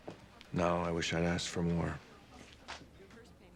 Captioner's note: none